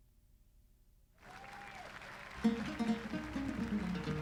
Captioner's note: cheers and applause